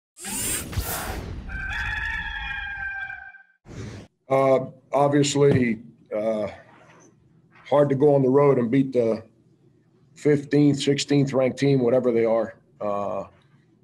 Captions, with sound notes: (swooshing sound) (cock crows) (air blows) - Uh, obviously uh, hard to go on the road and beat the 15th, 16th ranked team, whatever they are uh,